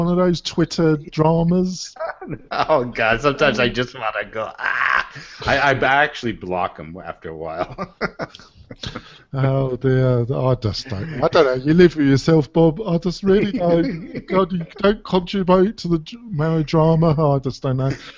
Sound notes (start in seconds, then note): 7.5 laughter